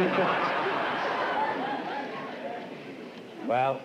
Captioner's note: laughter